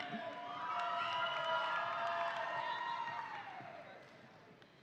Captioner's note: audience applauding